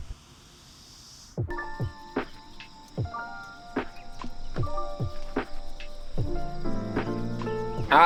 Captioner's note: birds chirping